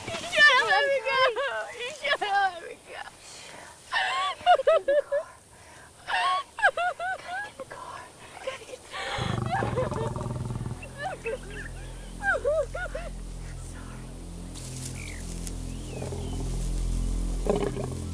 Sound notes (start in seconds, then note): 5.6 Whispering; 6.0 Sobbing Continues; 8.9 Quiet Growling; 13.0 Whispering; 14.1 Sobbing Continues; 15.0 Growling Continues; 15.0 Rustling